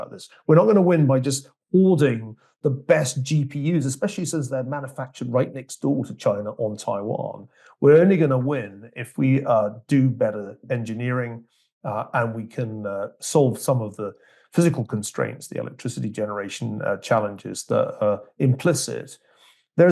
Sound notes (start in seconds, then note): none